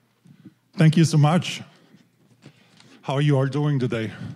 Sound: with Austrian accent

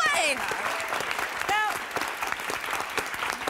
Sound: applause

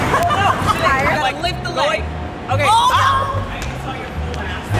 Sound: laughing

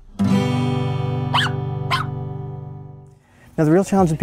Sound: guitar strums; dog barks

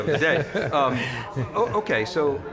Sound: laughing

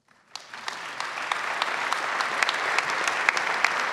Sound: clapping

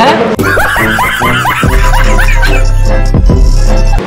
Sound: laughing

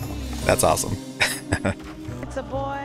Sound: laughing

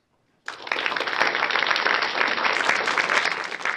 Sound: applause

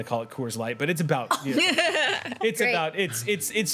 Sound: laughs

